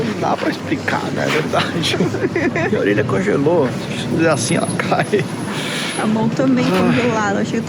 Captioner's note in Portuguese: risadas